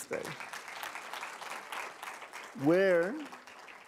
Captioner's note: applause